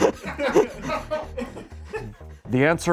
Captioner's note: crew laughs